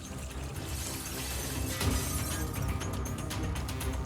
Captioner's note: glass shattering